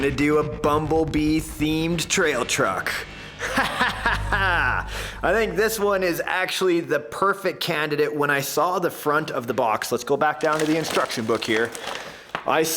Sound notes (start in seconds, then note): 3.3 laughing maniacally